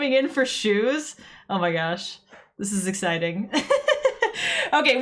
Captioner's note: laughs